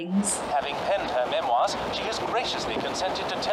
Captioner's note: radio recording